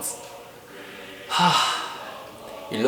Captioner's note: sigh